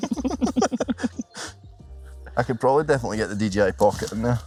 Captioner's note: laugh